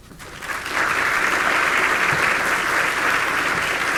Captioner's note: audience clapping